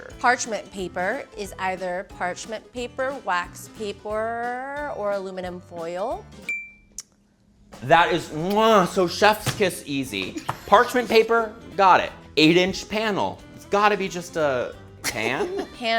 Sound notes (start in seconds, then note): 8.6 kisses